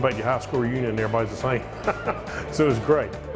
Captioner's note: laughs